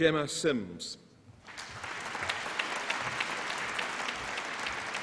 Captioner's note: applause